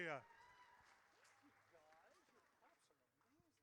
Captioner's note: audience cheers